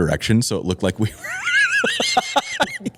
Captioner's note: laughter